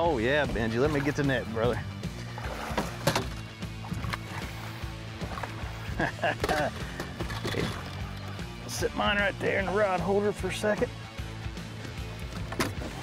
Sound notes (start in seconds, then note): 7.8 laughs